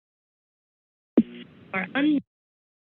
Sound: silence; mic thump

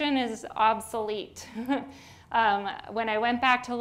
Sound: chuckles

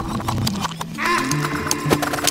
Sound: AAAh

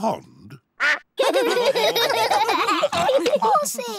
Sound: all laugh

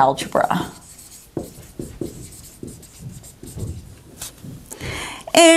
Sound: sounds of marker writing

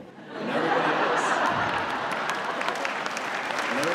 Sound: laughing, clapping

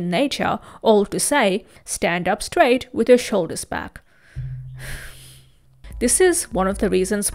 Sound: sighs

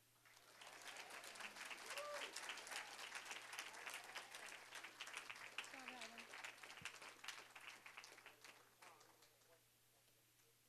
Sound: applause, cheering

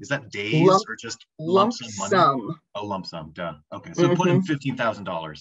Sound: talking

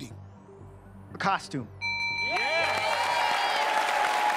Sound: bell rings

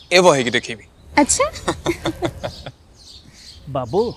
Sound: <i>laughter</i>

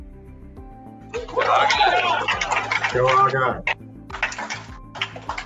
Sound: cheering

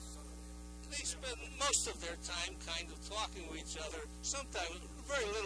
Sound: voice-over

